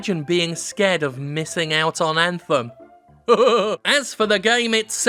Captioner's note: chuckles